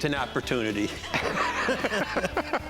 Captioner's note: laughs